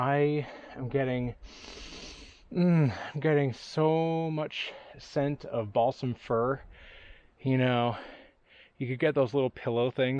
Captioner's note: sniffs deeply